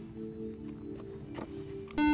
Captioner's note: buzzer